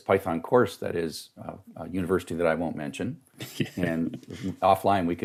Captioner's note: laughing